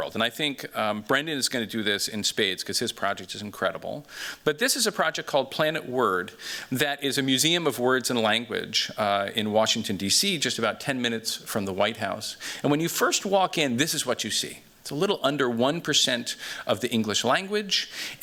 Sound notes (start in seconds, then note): none